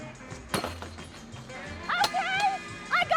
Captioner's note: hammer thumping; weight clicking